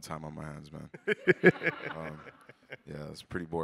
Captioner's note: all laugh